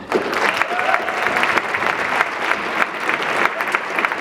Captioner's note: audience clapping